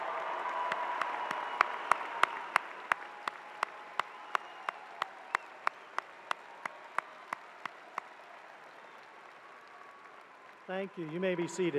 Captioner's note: cheers and applause